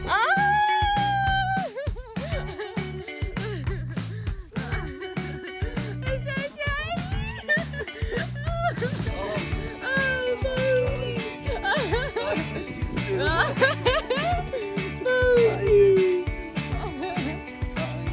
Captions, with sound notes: Oh! (laughing) Is that Daddy? (laughs) Oh Posey! (laughing) Posey! (laughing)